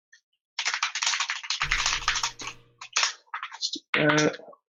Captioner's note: keyboard keys clanking